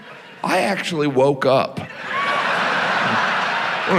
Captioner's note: audience laughs